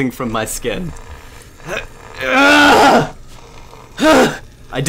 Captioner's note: Ashe grunting in pain